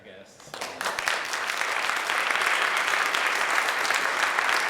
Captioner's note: applause